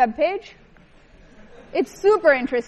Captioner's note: laughter